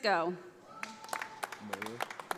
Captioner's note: audience applauding